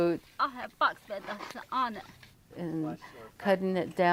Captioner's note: woman speaking Navajo